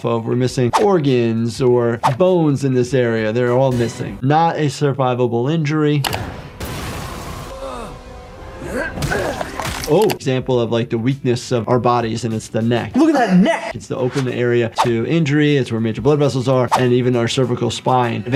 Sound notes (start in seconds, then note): 3.7 dramatic music; 5.8 screen clicking; 6.1 explosion blasting; 8.9 boot stomping